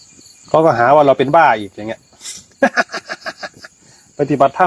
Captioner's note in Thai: เสียงหัวเราะ